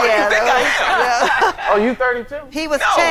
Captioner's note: all laughing